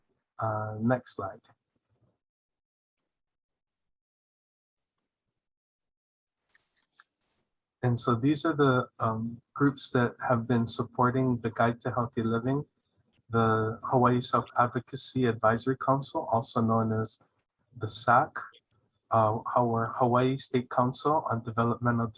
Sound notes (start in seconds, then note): 2.1 no audio